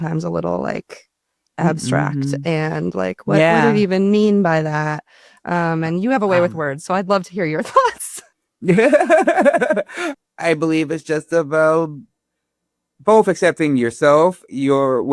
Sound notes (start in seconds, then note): 8.6 Ron laughing